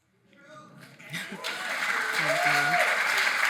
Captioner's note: audience clapping